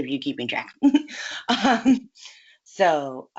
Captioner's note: laughs